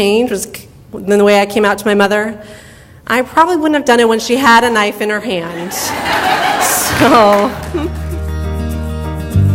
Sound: audience laughter

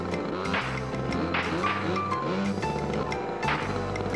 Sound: engine backfiring

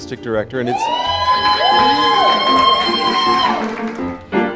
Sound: cheering

